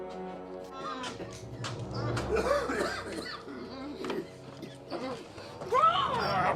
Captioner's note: Eleanor groaning; Pappy coughing; Eleanor shrieks